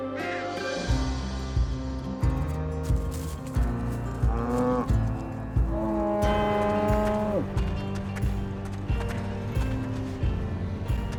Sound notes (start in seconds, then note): 4.1 cows moo